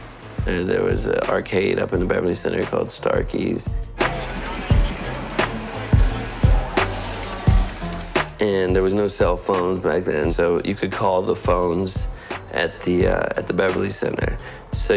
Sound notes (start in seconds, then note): 4.0 arcade machine clacking